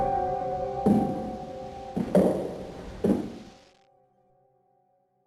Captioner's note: eerie music; footsteps thudding